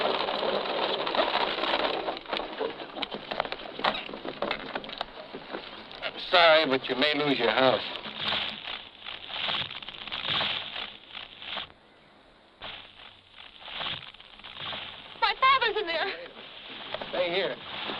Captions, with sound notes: Sorry, but you may lose your house. [wood cracking] - My father's in there! - Hey, stay here.